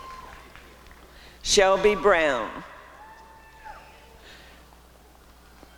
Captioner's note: applause and cheering